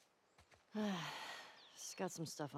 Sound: sigh

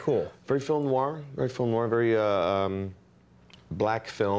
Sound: speaking in french

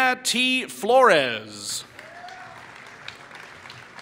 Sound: applause

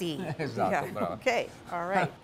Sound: laughter

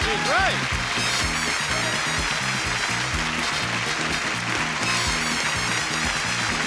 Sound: audience applauds; jaunty music

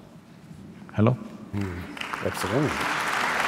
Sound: applause

